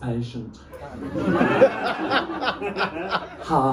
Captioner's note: laughter